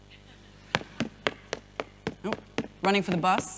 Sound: audience laughing; footsteps

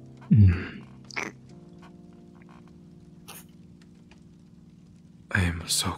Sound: kissing SFX

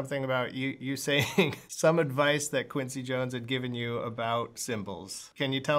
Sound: laughter

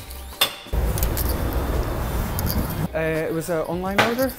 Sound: street noise

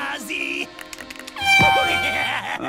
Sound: airhorn blows

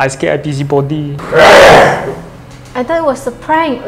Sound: growling sound

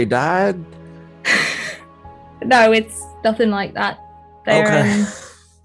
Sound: laughs

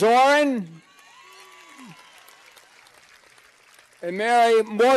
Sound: cheers and applause

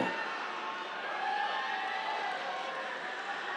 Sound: cheers

